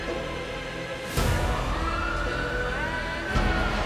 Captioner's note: sirens wailing